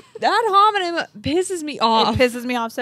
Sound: chuckles

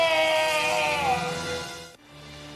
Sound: electricity flashing; robocop screams

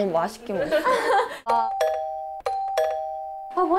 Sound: ding dong♬

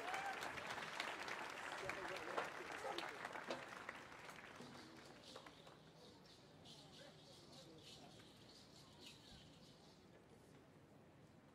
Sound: cheers and Applause

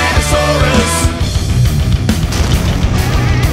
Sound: volcano erupting

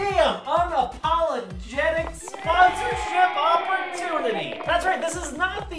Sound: unenthusiastic applauding

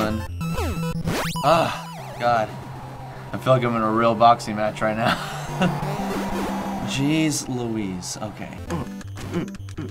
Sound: sighing

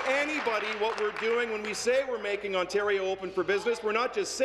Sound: applause

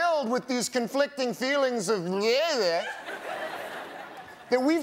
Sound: speaking gibberish

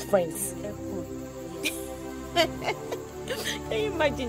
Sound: giggling

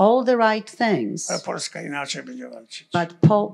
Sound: foreign language

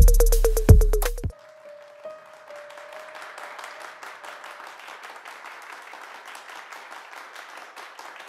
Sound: clapping

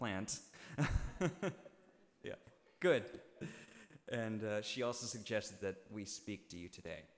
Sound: laughing

